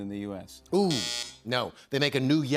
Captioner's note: buzzer